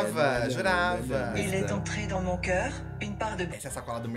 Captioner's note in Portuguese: narração em francês